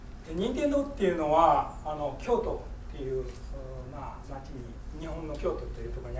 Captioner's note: speaking in foreign language